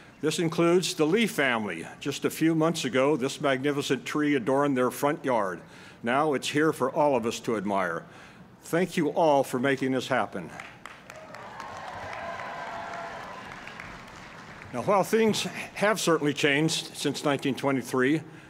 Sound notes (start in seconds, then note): 10.8 cheering and applause